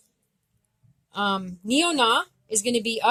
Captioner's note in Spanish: Lengua Abenaki